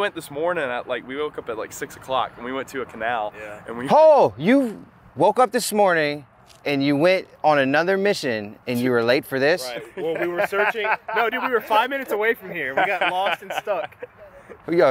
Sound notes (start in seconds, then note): 9.7 laughing